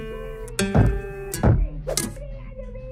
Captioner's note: knock knock!